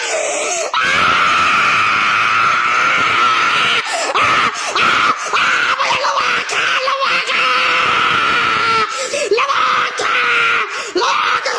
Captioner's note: sarcasm crying